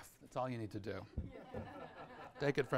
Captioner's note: audience laughs